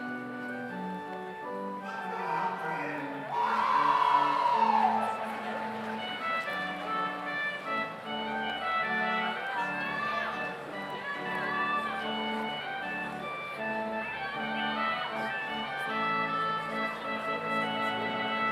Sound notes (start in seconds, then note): 3.3 audience cheers; 8.1 slow organ music continues